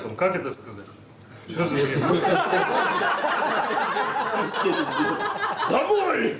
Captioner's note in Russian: смех